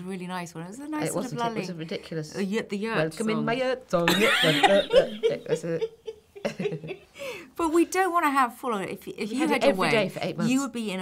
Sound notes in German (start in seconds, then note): 4.1 lachen